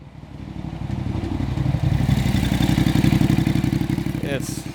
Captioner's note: motor Cycle Engine